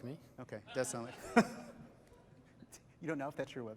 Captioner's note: laughter